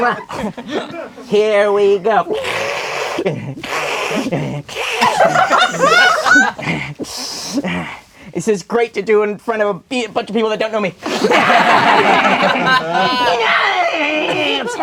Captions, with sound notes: Here we go. (Alien hisses) (crowd laughing) This is great to do in front of a bunch of people that don't know me. (crowd laughing) (Alien hissing)